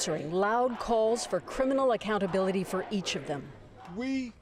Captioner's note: chanting